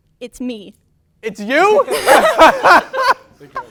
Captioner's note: laughs